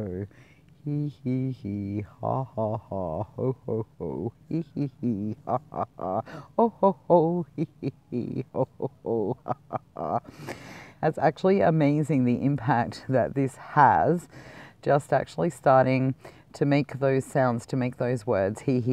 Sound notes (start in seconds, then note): 0.0 grumpy or sad voice; 2.7 less grumpy or sad voice; 6.3 little happy voice; 9.6 smiley voice